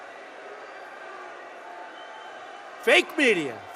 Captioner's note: applause